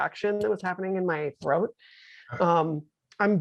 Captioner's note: none